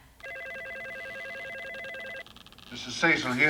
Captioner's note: phone ringing